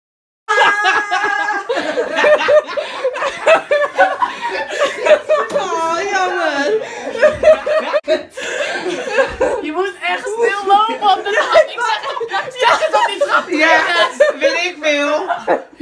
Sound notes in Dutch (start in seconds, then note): 0.2 gelach en geschreeuw; 7.0 gelach